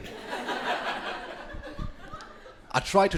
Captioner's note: crowd laughing